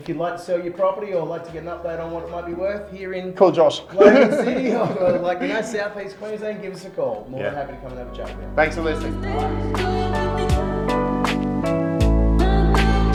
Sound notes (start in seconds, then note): 3.9 laughs; 10.4 upbeat music